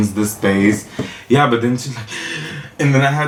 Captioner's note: gasp for air